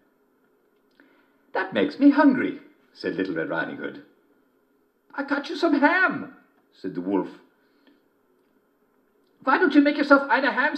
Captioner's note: German voice